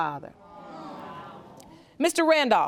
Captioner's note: audience murmuring